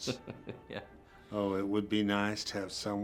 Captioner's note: chuckles